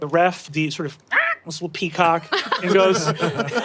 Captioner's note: squawks